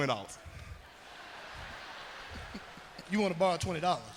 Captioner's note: crowd laughing